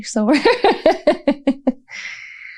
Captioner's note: laughter